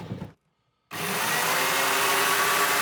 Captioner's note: whirring